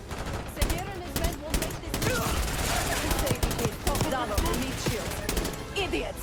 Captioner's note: gun firing